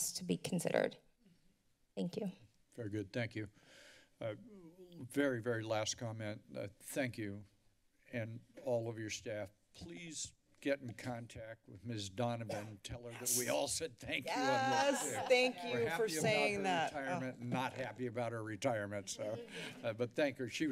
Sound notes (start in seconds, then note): 12.5 cough; 15.0 cheering